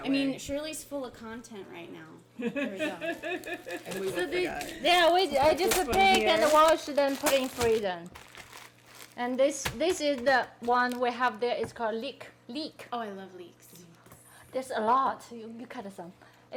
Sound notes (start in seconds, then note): 2.4 people laughing